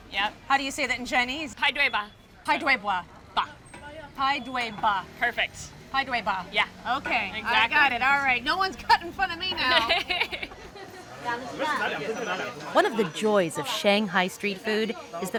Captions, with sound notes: -Yep. -How do you say that in Chinese? -Pai dui ba. -Pai dui bwah. -Ba. -Pai dui ba. -Perfect. -Pai dui ba. -Yeah. Exactly. -Okay. I got it. All right. -No one's cutting in front of me now! -[ Laughs ] -One of the joys of Shanghai street food